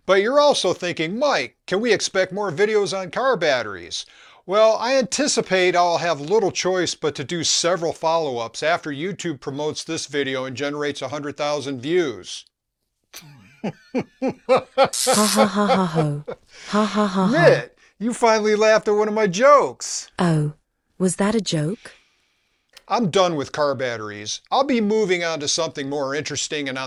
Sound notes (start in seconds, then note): 13.1 laughs